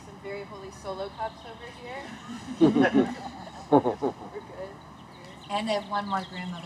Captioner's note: laughter